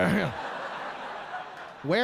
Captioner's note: audience laughing